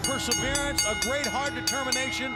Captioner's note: bell ringing